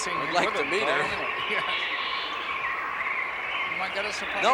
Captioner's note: laughs